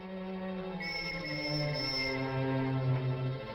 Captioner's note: police whistle blowing